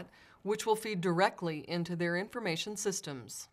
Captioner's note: none